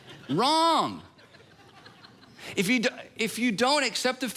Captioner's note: congregation laughing